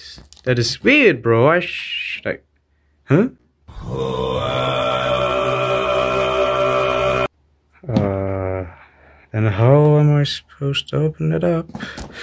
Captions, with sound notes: That is weird bro, I sss... Should I... HUH?!?! (moai sound effect) Uhhhhhhhhh... And how am I supposed to open that up?